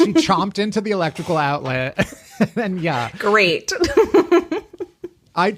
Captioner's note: laughing